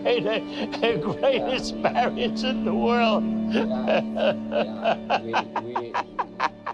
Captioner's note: laughing